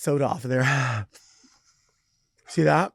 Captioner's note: sighs